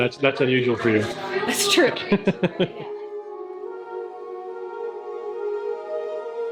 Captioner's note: laughing; mellow music